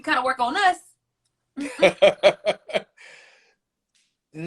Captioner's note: laughter